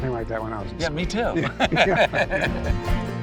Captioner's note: both laughing; light upbeat music